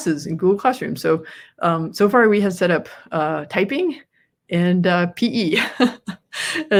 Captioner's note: laughs